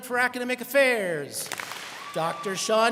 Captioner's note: students clap